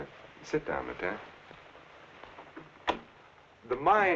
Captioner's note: door rattling